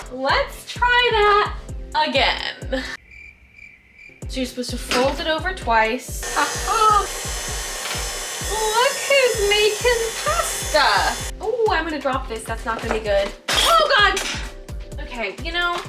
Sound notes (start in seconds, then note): 3.0 crickets chirping; 6.1 blender whirling